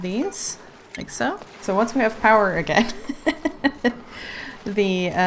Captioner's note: laughs